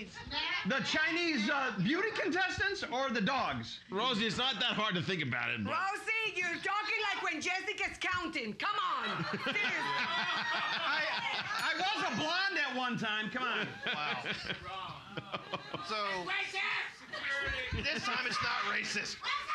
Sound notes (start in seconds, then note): 9.1 loudly laughing; 11.5 bell softly chimes; 17.9 audience shouting